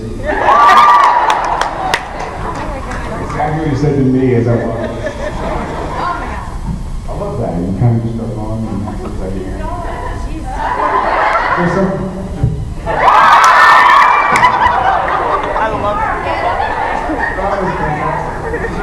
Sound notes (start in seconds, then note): 0.2 laughs, cheers; 9.8 laughs; 12.8 laughs, cheers